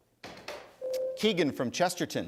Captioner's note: ding